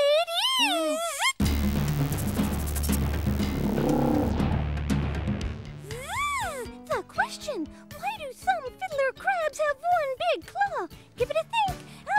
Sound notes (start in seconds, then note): 6.0 buzzing